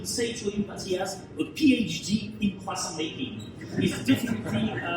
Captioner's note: audience laughs